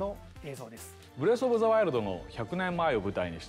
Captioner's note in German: Er spricht japanisch